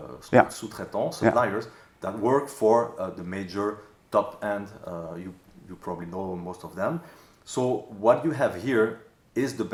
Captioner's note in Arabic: اللغة الفرنسية